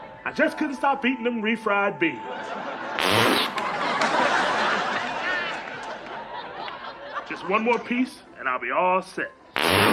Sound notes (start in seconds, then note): 2.2 audience laughs; 2.9 farting noise